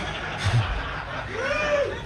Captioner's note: audience laughing